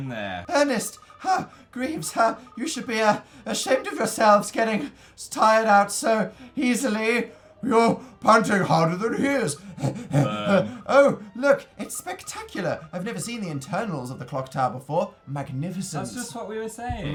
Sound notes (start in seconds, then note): 9.6 imitates a dog out of breath lmao